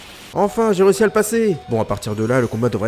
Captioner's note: low HP sound